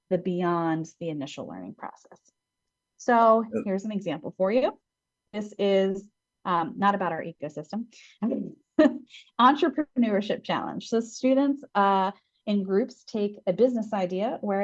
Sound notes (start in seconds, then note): 8.6 laughs